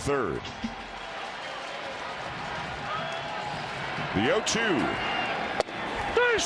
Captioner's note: cheering & Applause